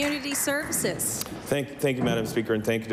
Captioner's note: applause